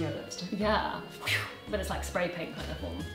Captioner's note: whooshes